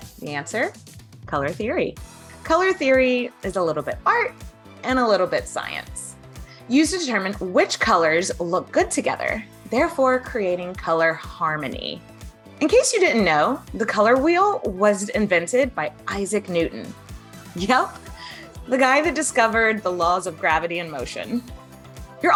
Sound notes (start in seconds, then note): 18.0 chuckles